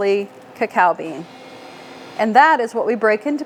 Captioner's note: machine revving